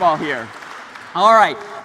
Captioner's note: applause